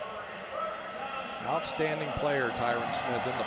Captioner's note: pa announcement